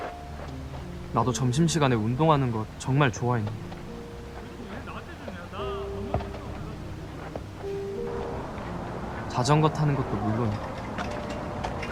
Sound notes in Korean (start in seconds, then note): 4.6 운동장을 뛰노는 학생들의 목소리